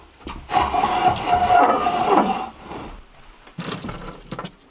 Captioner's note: metal grinding